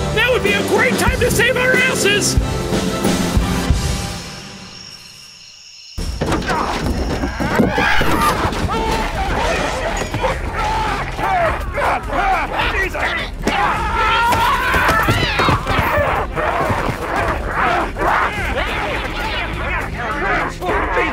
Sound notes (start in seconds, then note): 3.8 crickets chirping; 6.1 falling against shelves; 8.1 hologram Professor screams; 9.8 screams; 10.7 hologram Professor screaming; 13.3 yells and grunts; 16.4 hologram Professor screaming